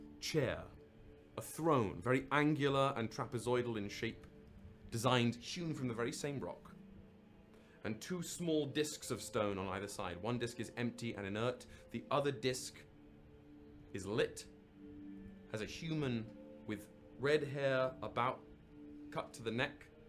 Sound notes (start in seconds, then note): none